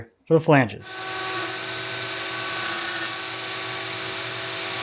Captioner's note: electric saw whirring